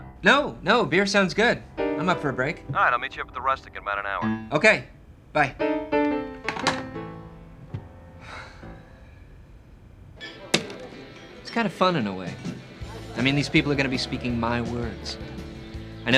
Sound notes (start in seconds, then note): 2.5 on phone; 8.2 sighs